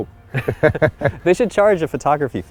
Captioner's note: laughs